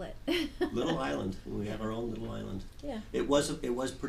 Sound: voiceover

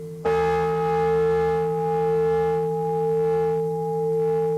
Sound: bell rings

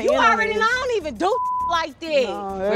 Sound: beep

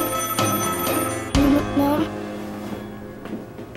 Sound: phone rings

